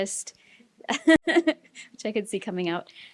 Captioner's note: laughs